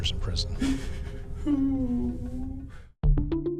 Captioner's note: crying